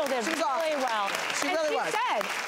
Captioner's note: applause